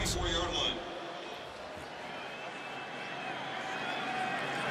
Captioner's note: pa announcement